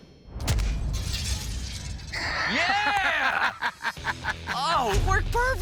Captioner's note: laughing